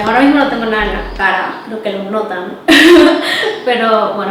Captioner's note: awkward laugh